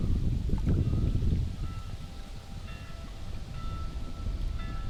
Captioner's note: bell chiming